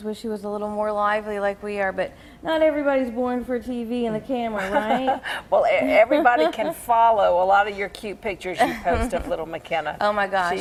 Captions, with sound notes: I just wish she was a little more lively like we are, but not everybody's born for TV, the camera, right? - (laughing) Well everybody can follow a lot of your cute pictures you post of little McKenna. - Oh, my gosh.